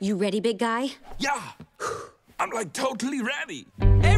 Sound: exhales

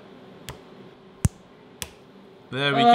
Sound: snapping

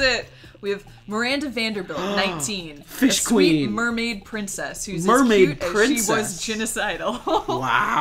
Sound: gasp

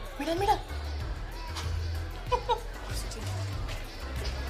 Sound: girl laughs

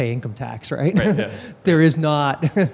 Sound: chuckles

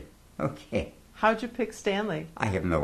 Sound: laughs

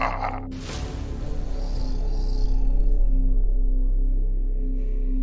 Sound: Mohuru growling

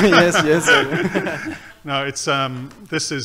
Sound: laughing

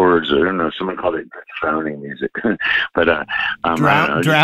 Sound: laughter

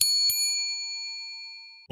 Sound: bell dings

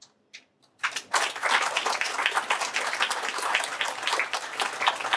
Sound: applause

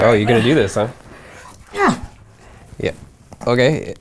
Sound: grunting

